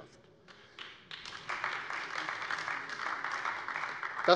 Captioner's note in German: Beifall AfD